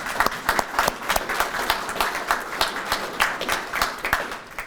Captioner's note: everyone applauding